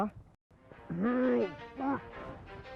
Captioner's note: grunting